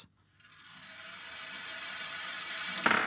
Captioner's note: metallic sound; marbles clicks